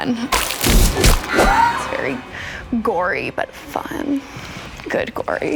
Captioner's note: man cries